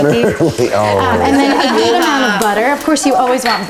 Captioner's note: laughter